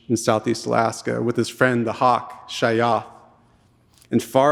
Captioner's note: speaking in Tlingit language